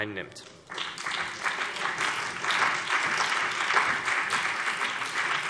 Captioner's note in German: Beifall CDU und BÜNDNIS 90/DIE GRÜNEN